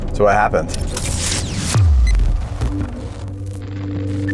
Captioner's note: beeping sounds